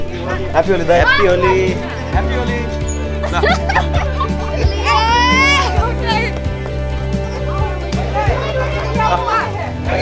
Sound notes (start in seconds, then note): 3.2 giggles